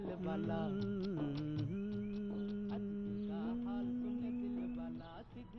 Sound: humming song

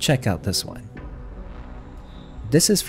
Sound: boom sound effects

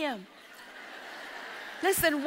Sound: audience laughs

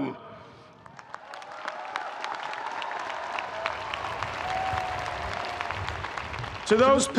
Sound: audience applauding; audience cheering

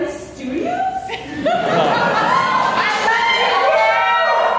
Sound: audience laughs

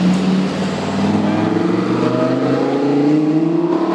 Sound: engine roaring

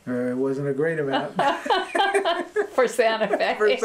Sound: laughter

